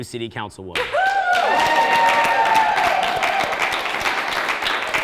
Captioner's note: audience cheering